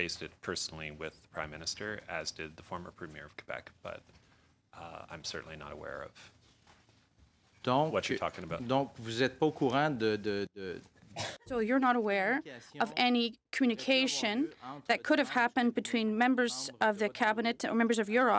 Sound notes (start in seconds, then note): 12.3 speaking French